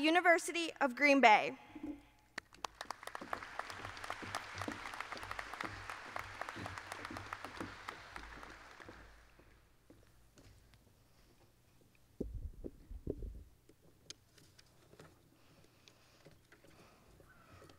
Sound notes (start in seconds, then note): 2.4 applause